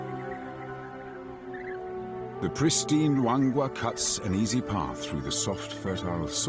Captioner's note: birds chirping; peaceful music